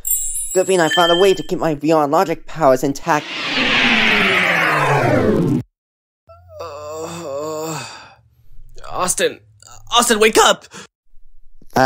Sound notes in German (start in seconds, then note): 6.4 stöhnend